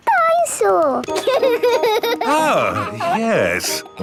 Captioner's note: giggles